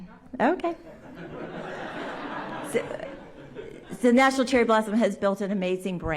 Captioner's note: laughter